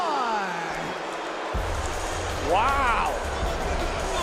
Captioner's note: crowd boos